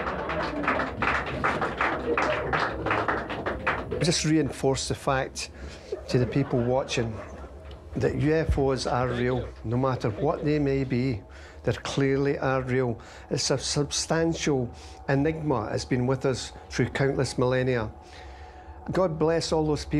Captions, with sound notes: that you guys are entirely too serious. (group laughs) (group applauds) - Just reinforced the fact to the people watching that UFOs are real, no matter what they may be, they clearly are real. It's a substantial enigma has been with us